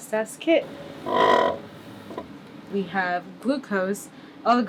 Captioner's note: sound of vortex machine